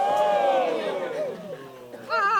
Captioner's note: cheering